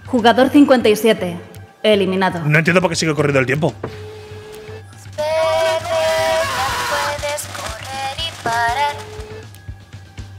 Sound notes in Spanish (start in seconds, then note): 8.5 Gritos